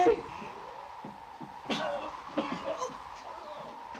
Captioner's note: Joss coughs